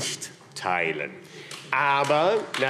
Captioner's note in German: Beifall AfD